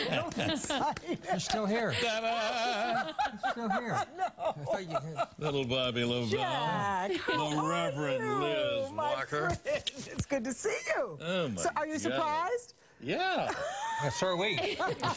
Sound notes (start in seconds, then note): 3.6 laughter